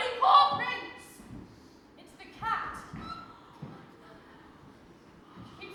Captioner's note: gasp